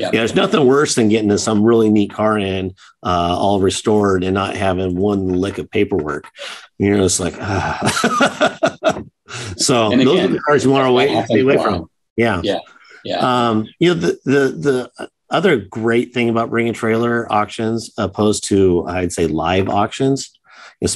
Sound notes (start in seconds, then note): 8.7 chuckles